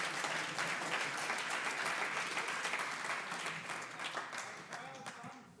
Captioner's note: audience applauds